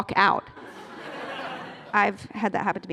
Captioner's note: laughter